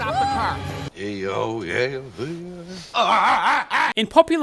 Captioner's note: Tim Allen grunting